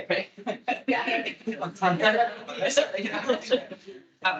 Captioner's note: attendees chattering; attendees laughing